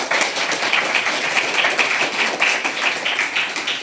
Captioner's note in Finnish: aplodeja